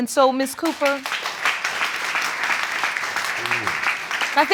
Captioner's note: applause